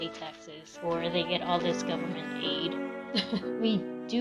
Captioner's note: laughs